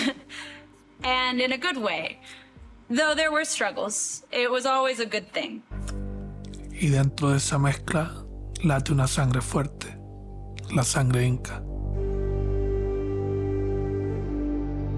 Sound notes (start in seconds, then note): 7.0 narrator speaking Spanish; 12.1 mystical music